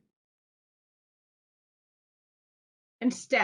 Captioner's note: silence